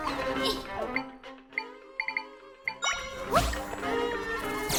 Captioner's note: menu beeping; dramatic orchestral music